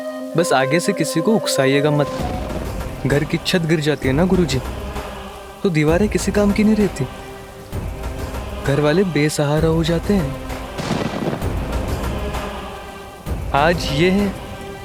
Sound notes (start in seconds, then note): 10.7 thunder rumbling